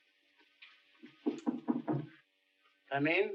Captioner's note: knocking on door